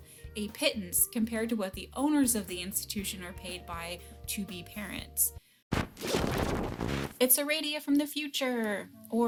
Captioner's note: distortion Sound